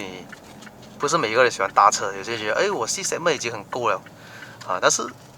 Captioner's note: car